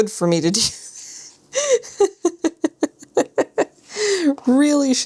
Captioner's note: laughs